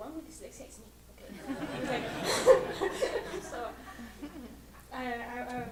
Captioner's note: laughter